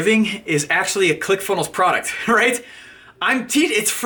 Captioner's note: laughing